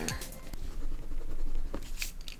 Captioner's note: none